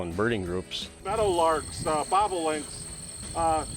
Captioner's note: bugs buzzing